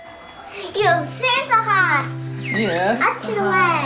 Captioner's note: baby talking